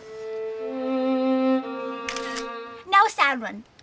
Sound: camera flashing

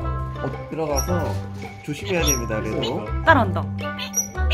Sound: baby otter's crying

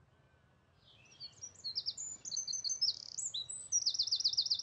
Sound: birds chirping

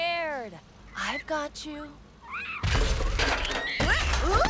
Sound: soft cries

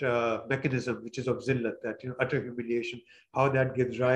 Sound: non-english

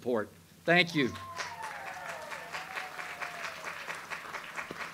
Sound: audience applauds

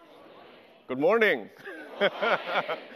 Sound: laughs

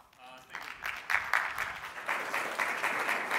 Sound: applause

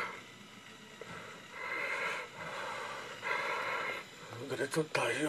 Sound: breathing heavily

